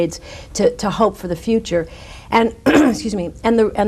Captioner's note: clears throat